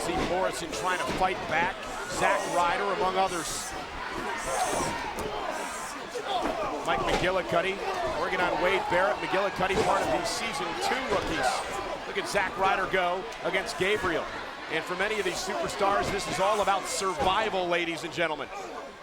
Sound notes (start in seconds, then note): 3.7 crowd yelling; 3.7 wrestlers chattering; 18.7 crowd yelling; 18.7 wrestlers chattering